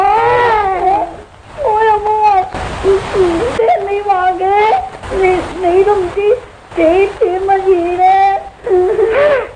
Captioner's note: they hug each other and cry; the kid is crying sadly